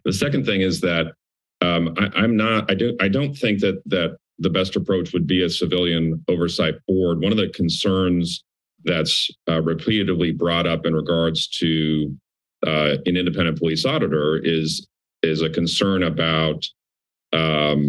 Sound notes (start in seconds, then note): none